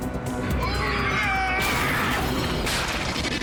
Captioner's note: men scream